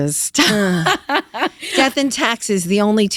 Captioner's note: laughs